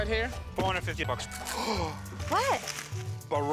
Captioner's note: gasps